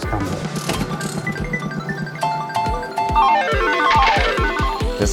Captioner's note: slot machine whirring